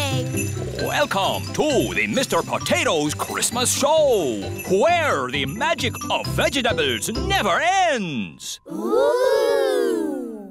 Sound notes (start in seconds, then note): none